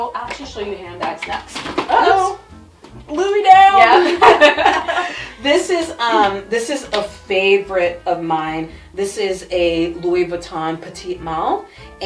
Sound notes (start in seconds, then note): 3.8 both laugh